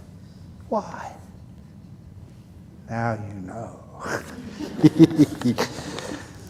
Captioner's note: laughter